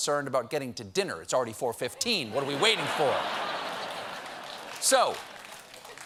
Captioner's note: laughter